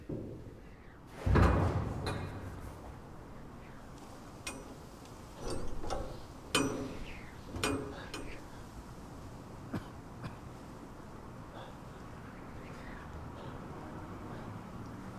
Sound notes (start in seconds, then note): 1.1 wind blows; 1.1 door clunks; 9.7 Carling coughs; 12.5 wind whistles